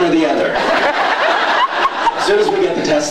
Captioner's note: laughs